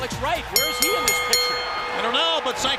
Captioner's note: bell ringing